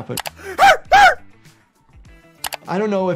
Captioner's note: Speedy screaming